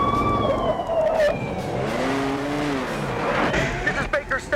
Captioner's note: tires screeching